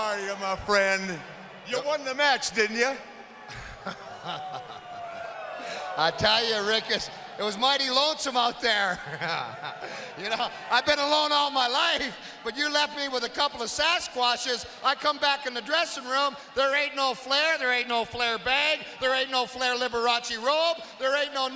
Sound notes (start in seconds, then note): 3.5 chuckles; 8.9 laughs